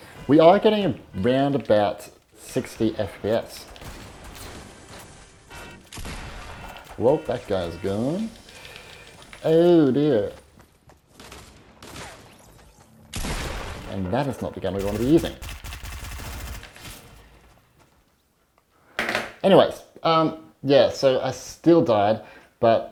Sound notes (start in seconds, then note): 3.5 bombs exploding; 5.4 guns bang loudly; 11.4 gun bangs; 16.3 machine gun exploding